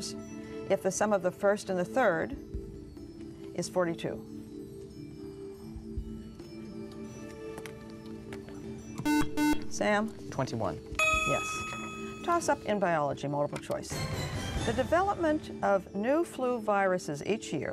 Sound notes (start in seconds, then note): 5.9 whispering; 9.0 buzzer